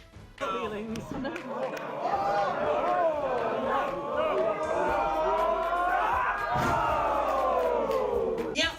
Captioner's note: crowd cheers